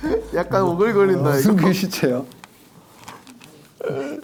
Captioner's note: heart pounding